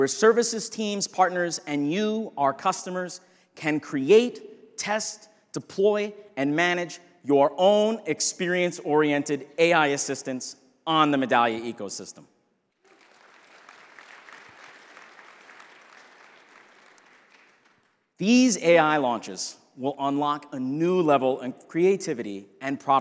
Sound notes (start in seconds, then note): 12.8 audience applauding